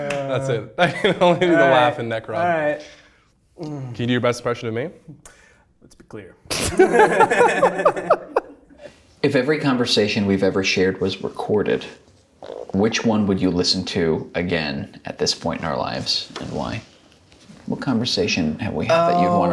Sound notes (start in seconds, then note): 6.5 both laughing